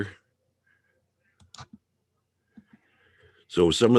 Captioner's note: mouse clicking